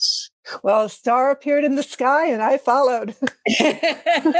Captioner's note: laugh